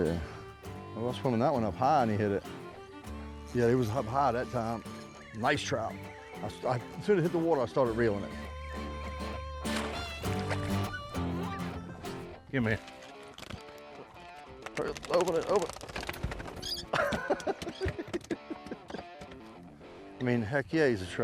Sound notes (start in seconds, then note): 6.5 upbeat twangy music; 6.5 water splashing; 13.7 laughing; 18.5 laughing; 21.0 upbeat twangy music